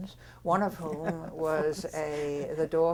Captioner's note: laughs